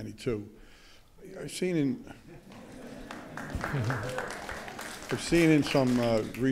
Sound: audience laughing; audience applauding

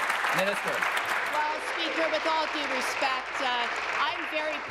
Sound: applause

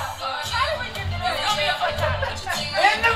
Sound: group chattering

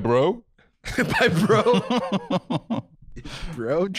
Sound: laughing

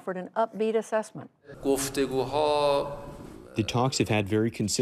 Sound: through translator

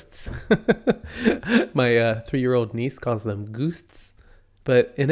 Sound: laughs

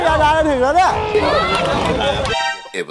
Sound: shouting

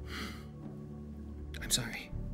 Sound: X sighs

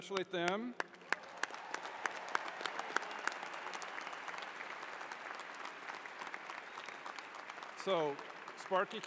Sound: applause

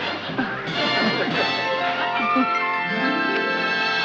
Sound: chuckling

